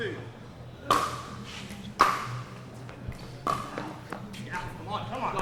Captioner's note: ball being hit